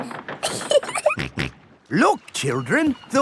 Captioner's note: giggling; snorts